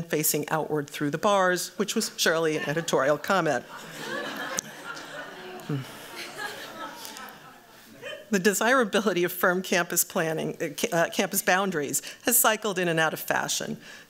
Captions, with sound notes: facing outward through the bars, which was surely an editorial comment. [AUDIENCE LAUGHS] The desirability of firm campus boundaries has cycled in and out of fashion.